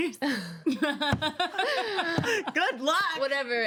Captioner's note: women laugh